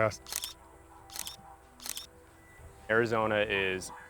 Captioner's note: camera snaps